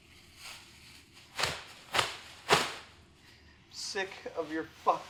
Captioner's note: sound of plastic sheeting